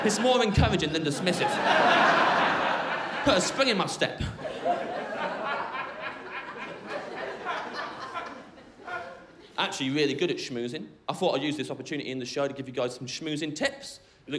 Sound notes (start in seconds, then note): 1.4 crowd laughing; 4.4 crowd laughing